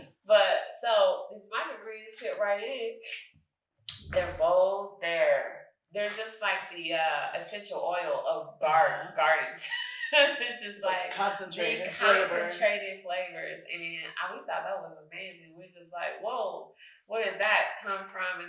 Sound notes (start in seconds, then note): 9.6 chuckles